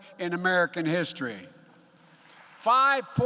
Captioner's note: applause